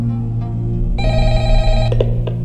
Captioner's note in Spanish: Suena el teléfono